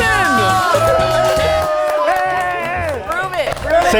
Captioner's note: all cheering